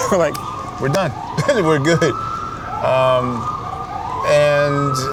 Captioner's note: laughs